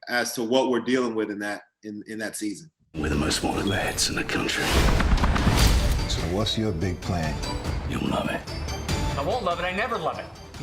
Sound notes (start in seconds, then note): 5.0 helicopter blades whirring